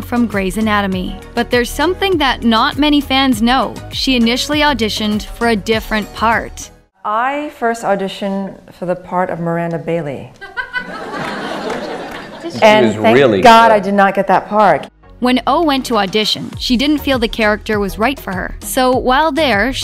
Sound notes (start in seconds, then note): 10.4 laughter